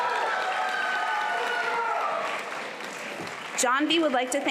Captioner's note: applause